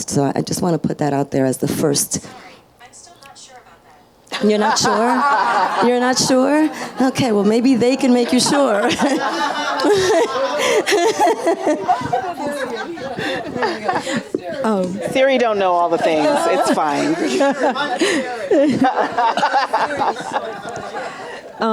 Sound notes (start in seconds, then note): 2.3 automated Voice; 5.2 audience laughs; 8.9 audience and panelists laughing; 18.0 audience and panel laughs